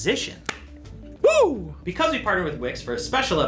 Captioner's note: claps